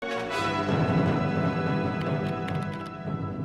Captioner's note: keyboard clicking; triumphant music